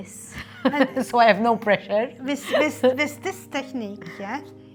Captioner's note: giggles